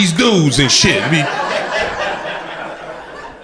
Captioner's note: crowd laughter